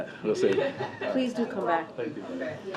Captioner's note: laughter